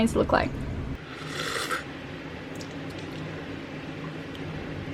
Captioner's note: slurps